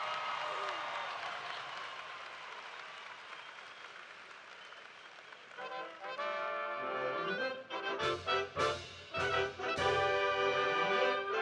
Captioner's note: cheers and applause